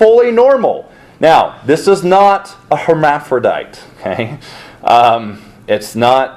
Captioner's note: chuckles